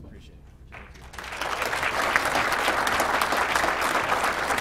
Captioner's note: applause